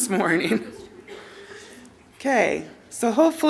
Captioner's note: laughter